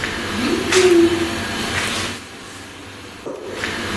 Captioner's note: whimper